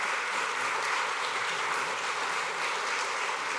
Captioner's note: applause